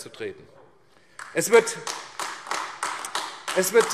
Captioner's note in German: Beifall AfD